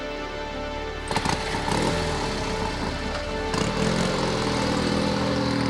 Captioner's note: motorbike rumbling